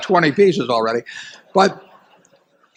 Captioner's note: laughter